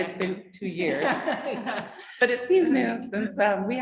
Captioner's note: chuckling